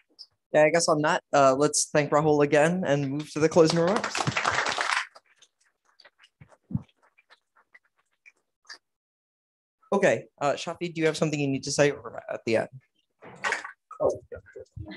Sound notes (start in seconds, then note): 3.5 applause